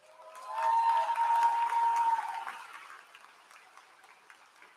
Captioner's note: applause